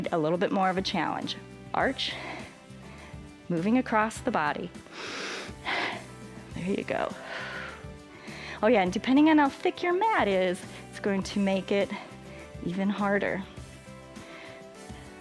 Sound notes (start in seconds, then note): 4.8 inhales and exhales; 7.1 exhales